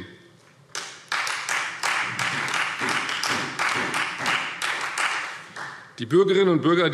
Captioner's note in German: Beifall Freie Demokraten